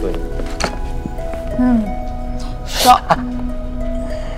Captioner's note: Anuj screams